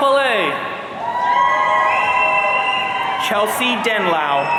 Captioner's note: audience cheering